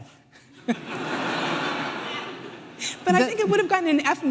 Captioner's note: audience laughing